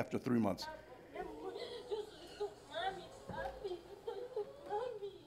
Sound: Spanish speaking

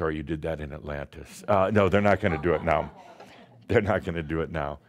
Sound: a few chuckles

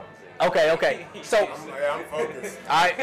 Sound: laughing

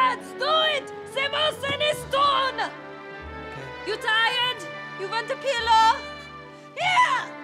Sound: speaking german

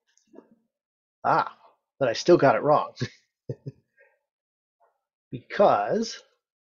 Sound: laughs

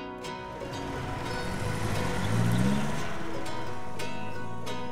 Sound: engine revving

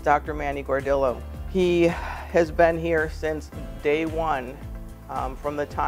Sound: sighs

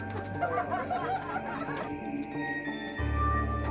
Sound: laughing

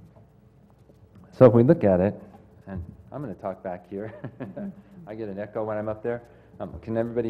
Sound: laugh

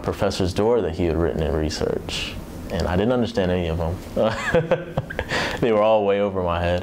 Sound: laughs

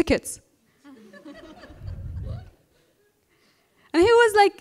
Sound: laughter

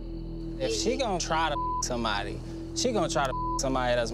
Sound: beep

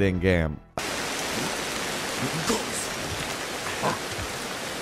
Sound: heavy rain falling

